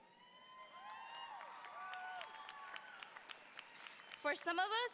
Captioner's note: audience cheers